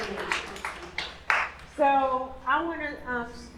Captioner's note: applause